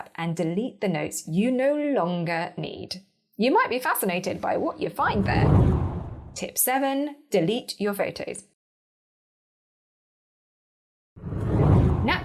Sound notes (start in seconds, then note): 5.0 air whooshing; 11.2 air whooshing